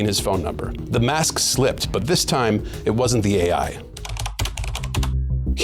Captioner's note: keyboard clacking